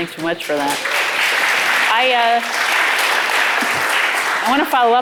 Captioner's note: audience applauding